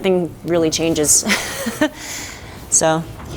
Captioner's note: laughing